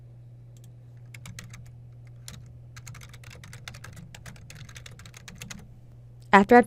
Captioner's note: typing